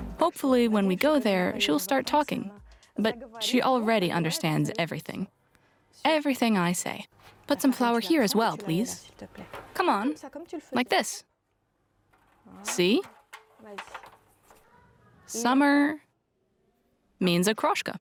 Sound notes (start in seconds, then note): 7.5 French; 9.7 speaks French; 13.6 speaks French